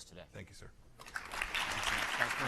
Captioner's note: applause